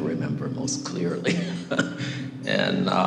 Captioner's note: laughs